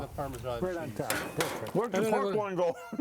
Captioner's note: metal banging